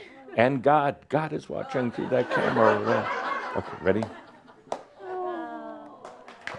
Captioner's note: more chuckles